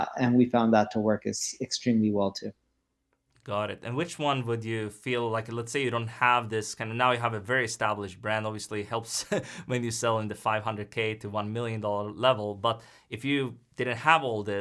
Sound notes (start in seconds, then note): 9.1 chuckles